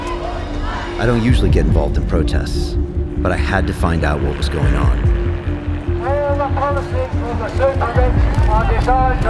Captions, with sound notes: I don't usually get involved in protests. But I had to find out what was going on. (man speaking)